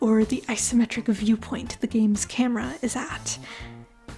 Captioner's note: none